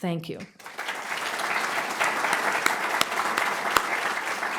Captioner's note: audience applauding